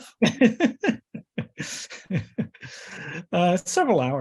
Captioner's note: both laugh